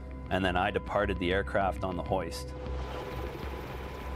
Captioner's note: helicopter blades chop air